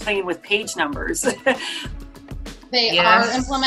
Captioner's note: laughs